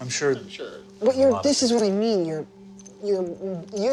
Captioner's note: stammers